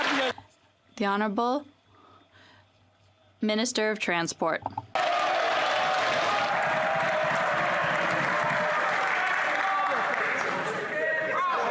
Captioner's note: some Applause